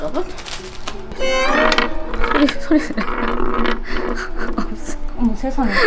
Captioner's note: the sound of a loose sound post